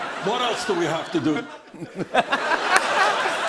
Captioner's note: laughs